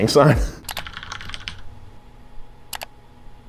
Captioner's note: laughs; typing